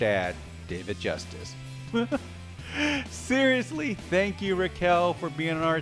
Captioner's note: laugh